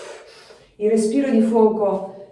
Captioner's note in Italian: sbuffare